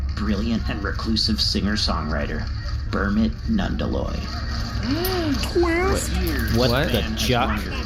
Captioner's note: gasps